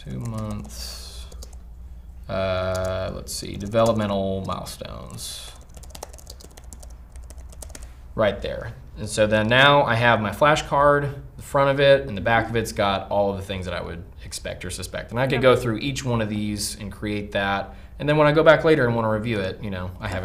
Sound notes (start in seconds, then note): 5.5 keyboard typing